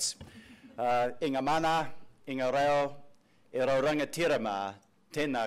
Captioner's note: speaking foreign language